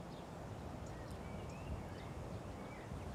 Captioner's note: birds chirp